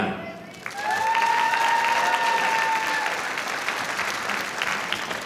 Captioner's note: audience applauding